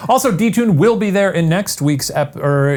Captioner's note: none